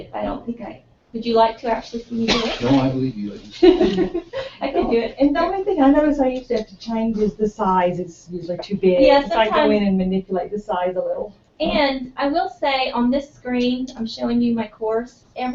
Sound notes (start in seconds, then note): 2.3 laugh